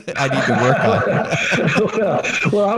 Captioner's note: laughing